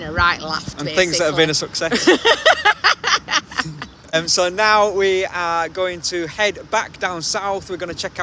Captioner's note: laughing